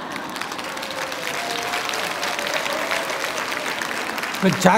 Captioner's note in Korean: 청중박수